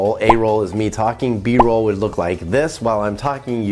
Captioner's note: word pops